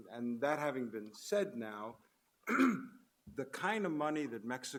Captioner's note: clears throat